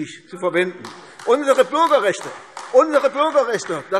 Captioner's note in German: Beifall AfD – Zuruf